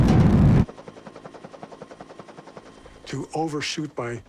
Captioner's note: helicopter whirring